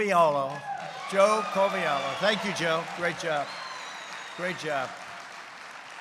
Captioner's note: applause